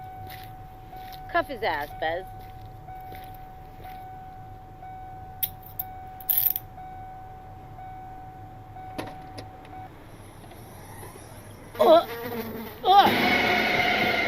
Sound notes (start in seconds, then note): 1.9 dry heaving